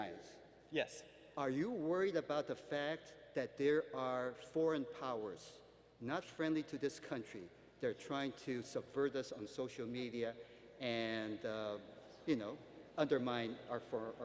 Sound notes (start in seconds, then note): none